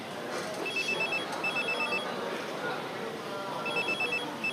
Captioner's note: mobile phone rings